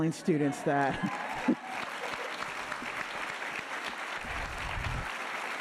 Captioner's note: audience applauding